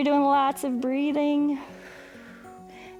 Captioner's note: exhales